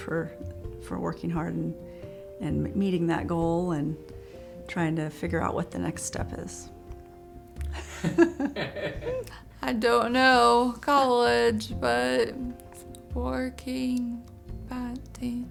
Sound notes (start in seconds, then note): 7.7 laughs